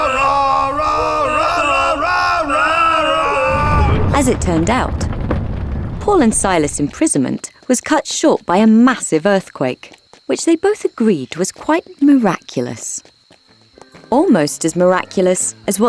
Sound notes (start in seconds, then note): 0.1 roaring hymns; 5.1 ground rumbling